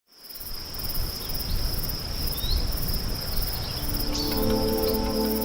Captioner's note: sonidos silvestres